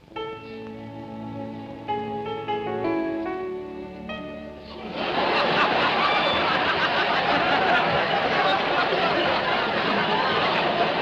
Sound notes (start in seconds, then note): 0.2 piano concerto playing; 4.7 audience laughing